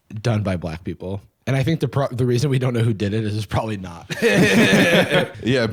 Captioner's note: laughs